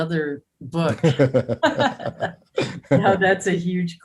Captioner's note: both laughs